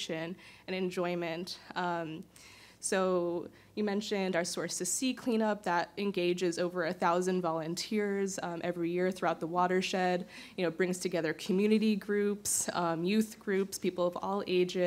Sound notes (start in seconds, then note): none